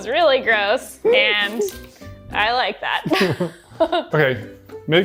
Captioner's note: laughs